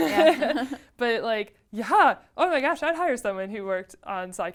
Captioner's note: laugh